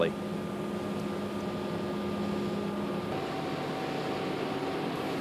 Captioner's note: machinery running